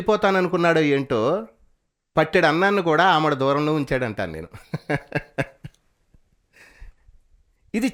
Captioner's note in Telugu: నవ్వు